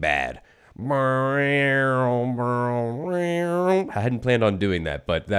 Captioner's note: imitates theme song